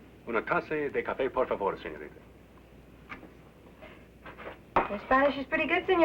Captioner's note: speaking in foreign language